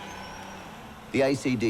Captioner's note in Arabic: الجمهور يصرخ; الجمهور يهتف